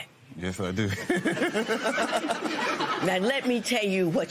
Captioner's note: laughs